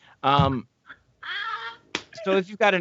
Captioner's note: laughing